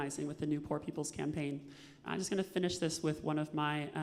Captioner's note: none